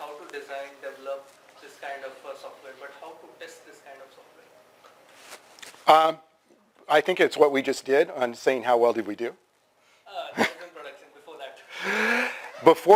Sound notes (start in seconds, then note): 5.1 pause